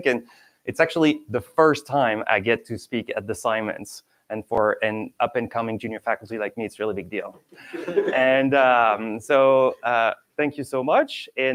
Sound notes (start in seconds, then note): 7.6 students chuckling